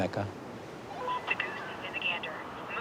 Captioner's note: phone bleeping